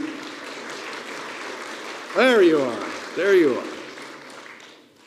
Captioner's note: applause